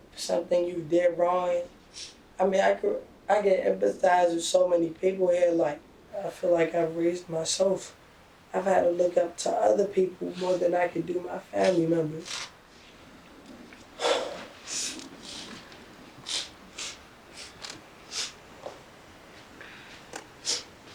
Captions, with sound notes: For something you did wrong. I mean, I can empathize with so many people here. Like, I feel like I've raised myself. I've had a look up to other people more than I can do my family members. [sigh] (sniffling and crying)